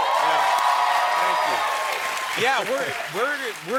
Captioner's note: cheering